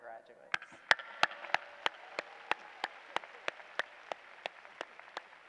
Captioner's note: applause